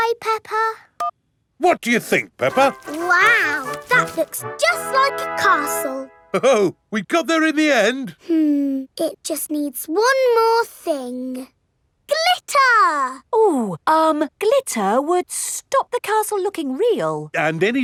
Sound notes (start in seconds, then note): none